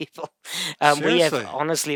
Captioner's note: laughing